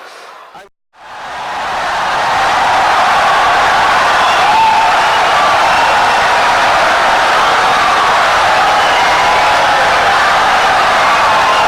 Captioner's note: wild applause and cheering for 17 seconds